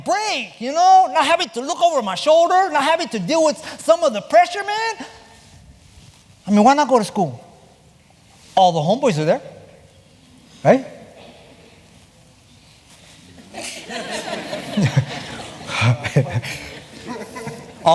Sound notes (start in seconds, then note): 13.5 laughter